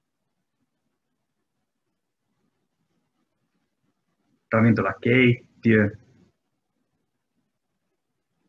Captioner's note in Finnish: hiljaisuus